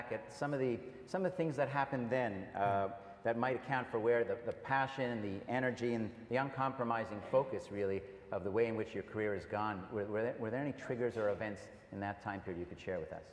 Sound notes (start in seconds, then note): none